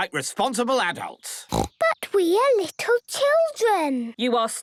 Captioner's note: snorting